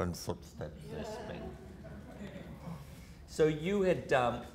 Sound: audience laughter

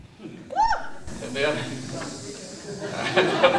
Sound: laughter

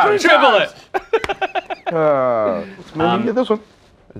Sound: laughs

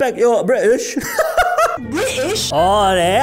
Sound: laughs

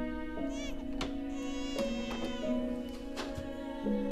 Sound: distant baby cry

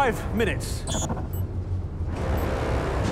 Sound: beeping

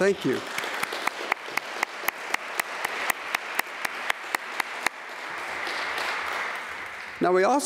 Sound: applause

